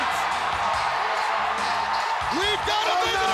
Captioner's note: audience cheering